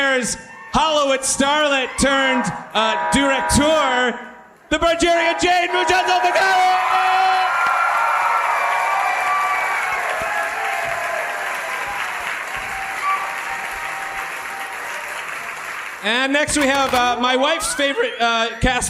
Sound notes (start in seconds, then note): 8.8 audience applauds